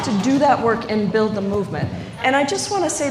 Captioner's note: applause